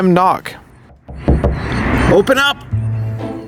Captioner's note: knocking on the door